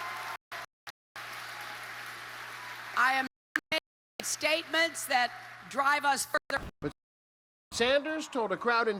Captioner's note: cheers and applause